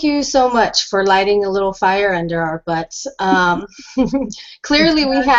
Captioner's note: chuckles; chuckling